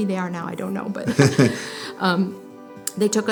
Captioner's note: both laughing